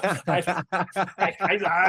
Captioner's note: laughing